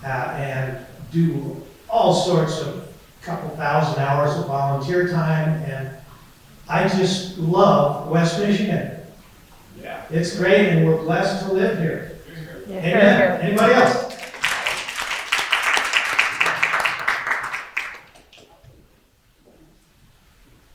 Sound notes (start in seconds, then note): 13.5 applause